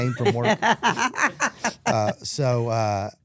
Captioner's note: Stephanie laughs